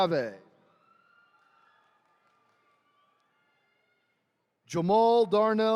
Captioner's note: attendees cheering